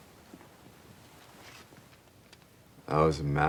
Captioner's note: frame scratching